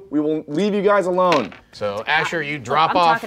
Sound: dice rolling

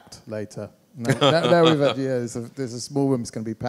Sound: laughs

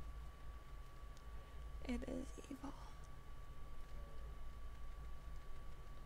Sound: whispers

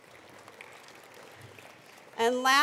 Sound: attendees applauding

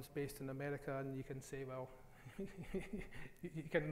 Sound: laughs

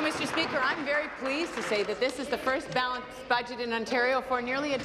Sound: applause

